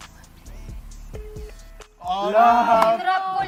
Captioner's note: line beeping